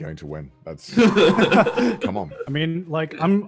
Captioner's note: laughing